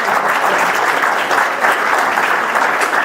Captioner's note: audience applauds